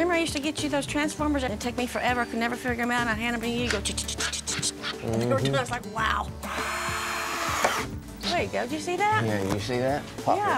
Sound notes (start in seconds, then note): 6.4 screwing